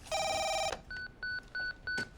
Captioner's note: phone beeping